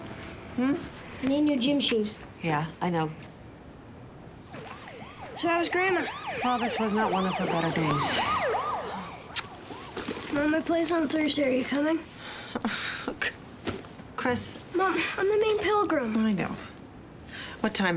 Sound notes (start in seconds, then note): 8.1 siren wails in distance; 12.2 sighs